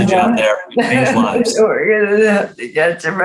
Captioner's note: laughs